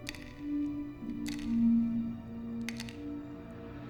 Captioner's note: medicines clatter